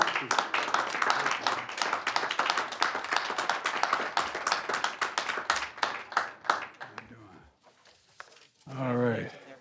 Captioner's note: applause